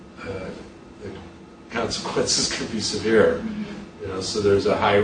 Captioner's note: chuckles